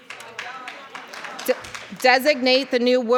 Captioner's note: audience applauding